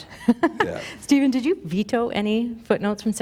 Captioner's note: laughter